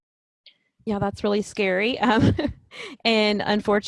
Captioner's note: laughs